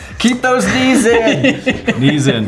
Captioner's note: all laughing